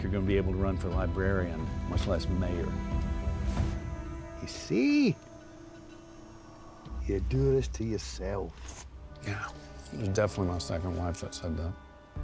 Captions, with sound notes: BE ABLE TO RUN FOR LIBRARIAN, MUCH LESS MAYOR. [SCOTTISH ACCENT] YOU SEE... YOU DO THIS TO YOURSELF. YEAH, IT WAS DEFINITELY MY SECOND WIFE THAT SAID THAT.